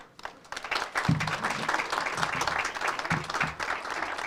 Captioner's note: audience applauds